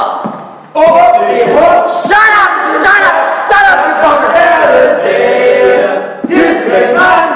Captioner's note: voices offstage